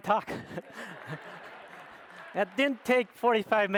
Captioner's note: audience laughs